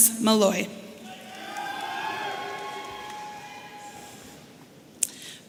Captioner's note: audience cheering